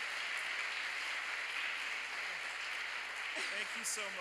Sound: applause

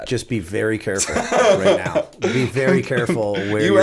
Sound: chuckle

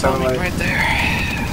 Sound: sigh

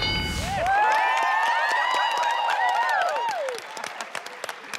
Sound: audience cheering

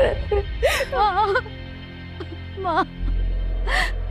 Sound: sobbing

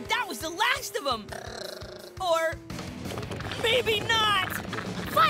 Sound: gurgling

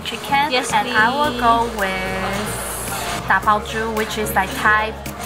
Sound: speaking foreign language

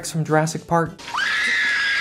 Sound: ear piercing high pitched scream

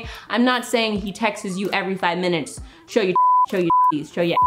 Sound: beep

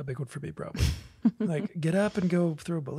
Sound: laughs

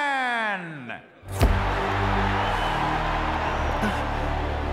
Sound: audience screaming and cheering; gasps

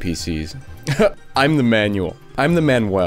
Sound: laugh

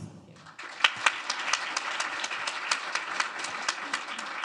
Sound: audience clapping

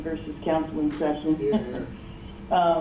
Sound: laughs

